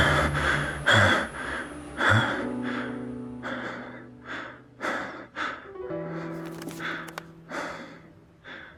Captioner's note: panting heavily